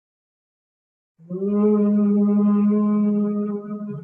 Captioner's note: humming